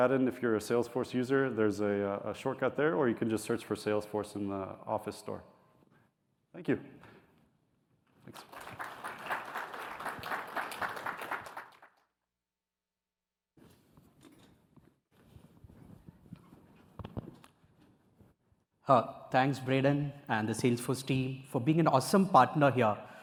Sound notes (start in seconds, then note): 8.2 applause